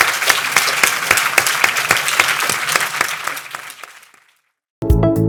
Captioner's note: audience applauding